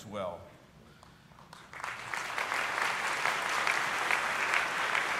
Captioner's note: audience applauding